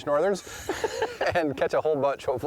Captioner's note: both laughing